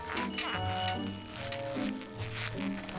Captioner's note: bicycle bell rings